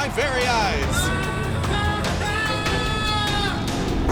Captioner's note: yelling